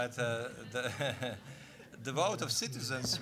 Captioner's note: audience laughing